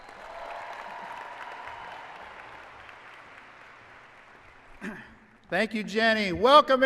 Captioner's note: applause and cheering